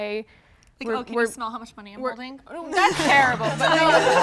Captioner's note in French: rires